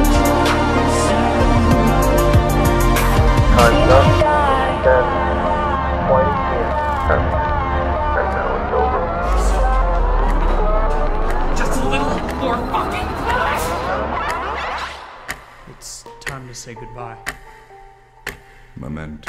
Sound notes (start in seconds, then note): 7.7 clock ticking; 14.8 placid music